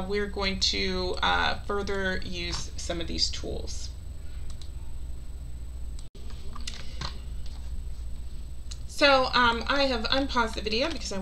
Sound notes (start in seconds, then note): 4.4 mouse clicking